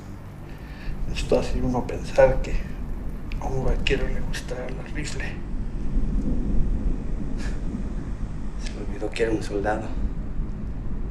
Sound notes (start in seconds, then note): 1.5 speaking in foreign language